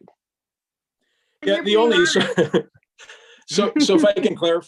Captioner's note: chuckles